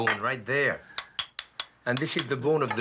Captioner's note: tapping